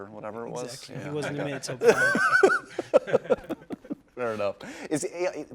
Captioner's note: laughter